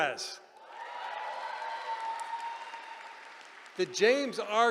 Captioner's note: cheering